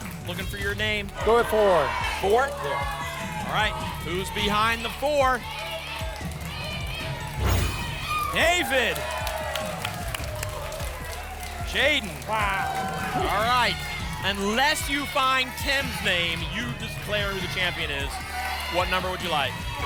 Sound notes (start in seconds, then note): 6.6 audience chanting "jaiden!"; 10.0 applause and cheering